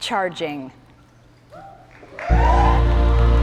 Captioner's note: cheers and applause